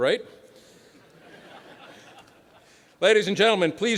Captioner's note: laughter